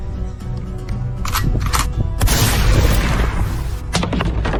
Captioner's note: gun cocks and fires